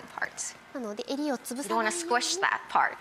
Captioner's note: Marie Kondo speaking Japanese